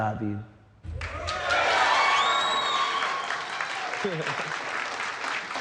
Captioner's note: audience applauding, cheering